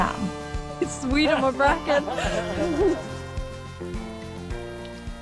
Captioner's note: laughs